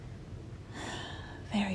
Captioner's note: sighs